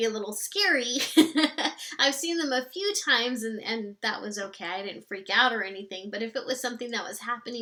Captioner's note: laughs